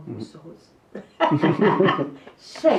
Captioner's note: chuckles